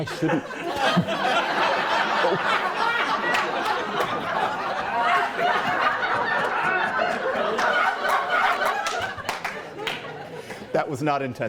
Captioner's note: loud laughter